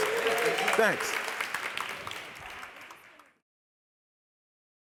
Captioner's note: audience cheering and applauding